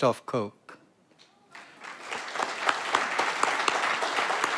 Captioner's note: audience applauds